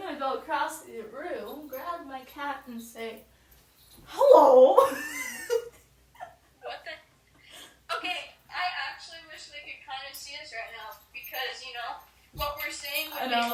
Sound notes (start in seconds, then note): 4.6 giggles